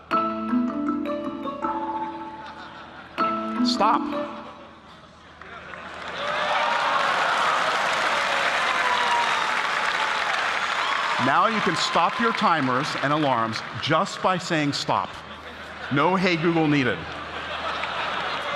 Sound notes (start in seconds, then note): 0.3 alarm sounding; 4.6 alarm stops; 6.0 applause